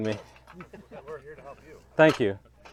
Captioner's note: men laugh